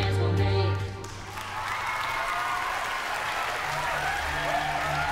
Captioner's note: cheering, applause